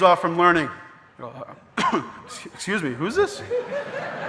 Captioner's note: coughs; audience laughing